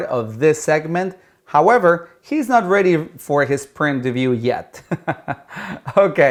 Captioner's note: laughs